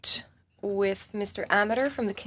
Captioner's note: speaking in French